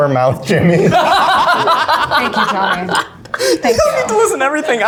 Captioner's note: all laugh